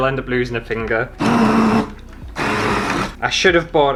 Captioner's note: blending Noises